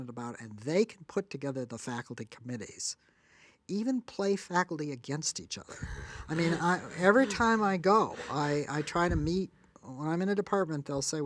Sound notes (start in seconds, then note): 5.7 laughs